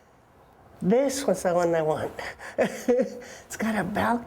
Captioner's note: chuckles